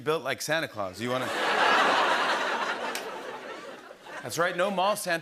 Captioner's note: laughter